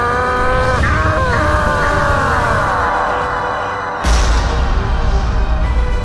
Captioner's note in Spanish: Grita; Grita dolorosamente